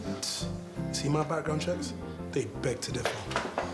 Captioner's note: scoffs